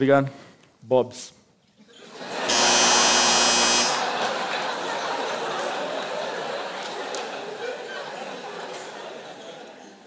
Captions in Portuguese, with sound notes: Obrigado... 'Bob's'. [campainha]